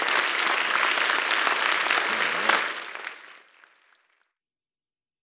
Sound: applause

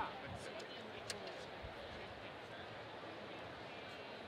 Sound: students chattering

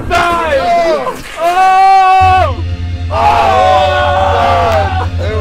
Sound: all shouting excitedly

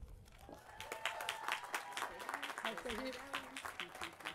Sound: applause

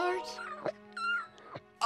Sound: chirping

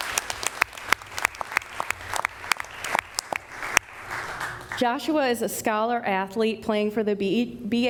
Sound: applause

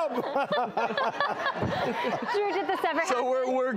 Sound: audience laughs

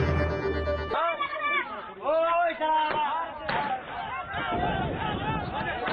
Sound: yelling in foreign language

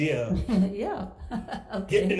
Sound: laughs

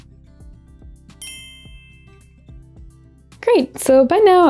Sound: dinging sound effect

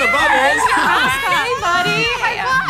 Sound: laughing

